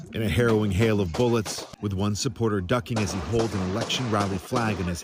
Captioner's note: gunshots